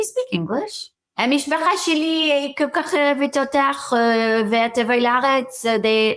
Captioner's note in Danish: hebraisk